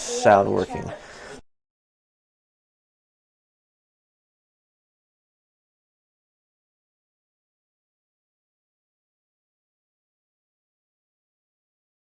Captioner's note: silence